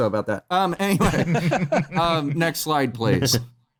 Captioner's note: laughter